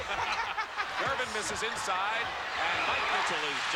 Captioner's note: laughs